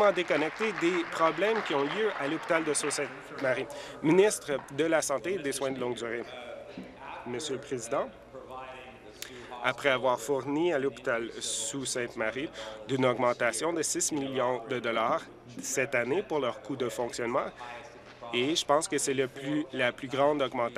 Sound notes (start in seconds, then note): 3.3 applause